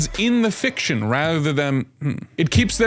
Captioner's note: mic boink